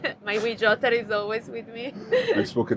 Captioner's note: both laugh; chuckles